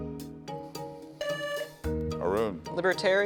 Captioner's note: buzzer sounding